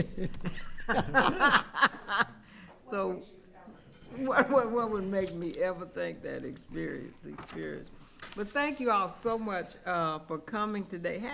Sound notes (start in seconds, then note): 0.0 and others laughing; 3.0 attendee speaking quietly